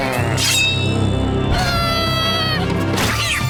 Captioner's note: screaming